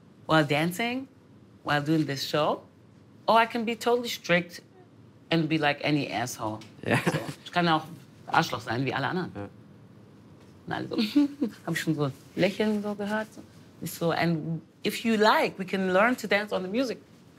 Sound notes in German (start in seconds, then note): 6.8 lacht; 11.0 Kichern